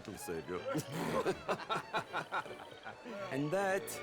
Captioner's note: laughs